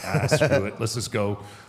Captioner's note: AJ laughs